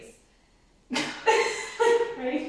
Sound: women laugh

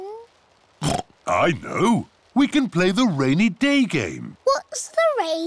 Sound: oinks

